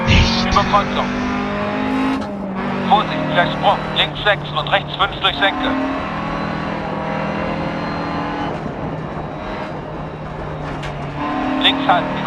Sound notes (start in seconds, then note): 0.1 whisper; 1.5 engine sounds and co-pilot's instructions